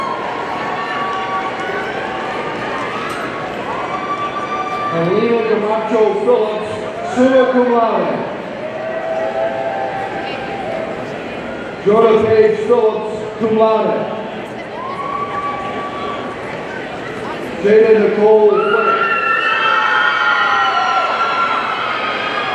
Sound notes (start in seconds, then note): 0.0 audience cheering; 15.4 audience cheering